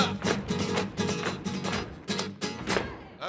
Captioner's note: man exclaiming in a foreign language; heels rhythmically stomping; acoustic music ends; people exclaiming